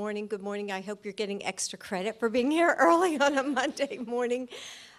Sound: laughter

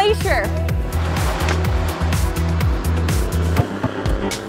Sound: whirring

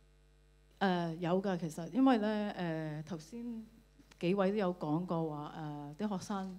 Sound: Cantonese

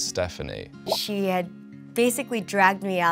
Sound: text bloops

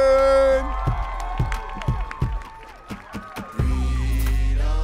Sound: audience cheering

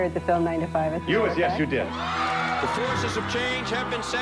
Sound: cheering

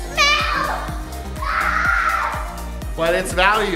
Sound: screaming

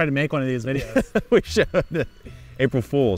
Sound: laughing

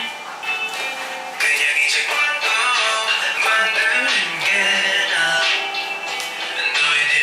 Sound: whispering

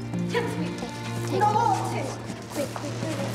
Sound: speaking in Greek

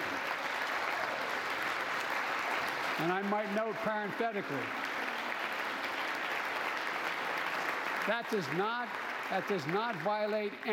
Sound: applause

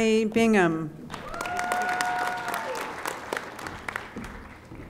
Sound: audience applauding

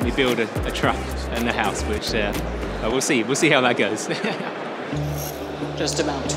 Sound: laughs

